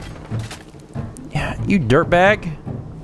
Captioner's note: sigh